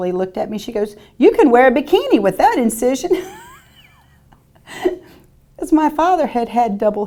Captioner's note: laughing